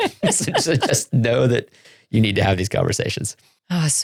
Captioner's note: laughing